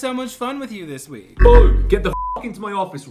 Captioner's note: buzzer